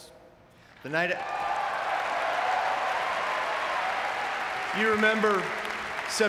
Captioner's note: audience cheering and clapping